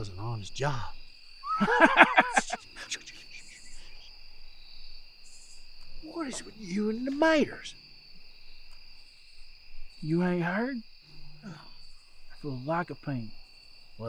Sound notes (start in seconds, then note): 1.4 both laughing; 2.2 man shushing